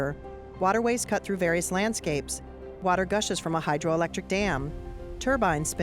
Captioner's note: water flowing